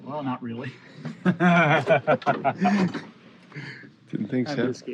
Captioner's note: laughter